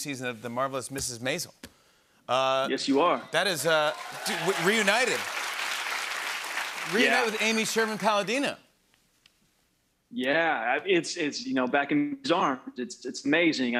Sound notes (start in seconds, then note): 5.2 cheers and applause